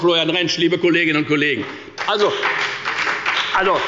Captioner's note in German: Beifall bei der FDP und der SPD